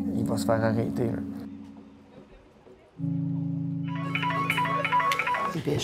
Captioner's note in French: sonnerie de téléphone